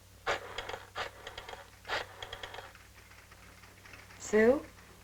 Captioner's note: rotary phone rattling